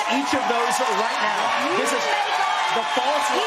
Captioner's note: applause